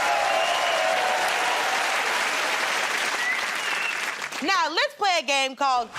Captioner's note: cheers and applause